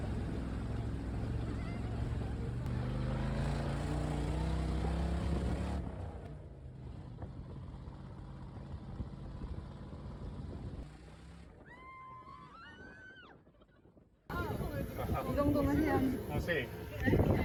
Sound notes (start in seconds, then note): 11.6 screams